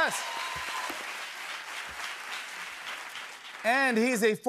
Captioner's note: cheers and applause